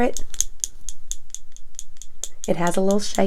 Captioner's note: clicking